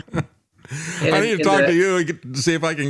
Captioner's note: both Laughing